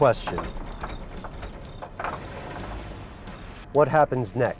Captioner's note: engine stalls